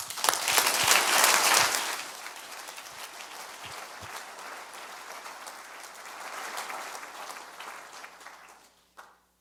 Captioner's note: audience applause